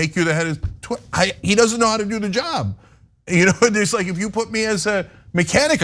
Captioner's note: laugh